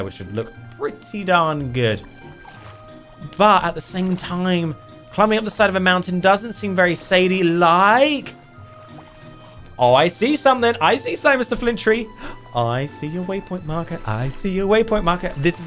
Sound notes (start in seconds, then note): 2.1 playful twinkling music; 2.1 water splashing; 8.7 playful twinkling music; 8.7 water splashing